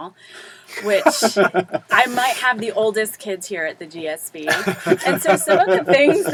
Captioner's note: laugh